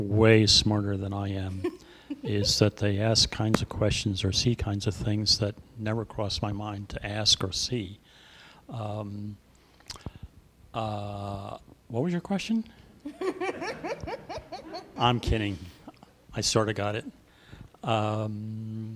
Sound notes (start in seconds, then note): 13.0 laughter